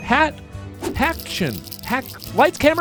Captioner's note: bell dinging; scene whooshing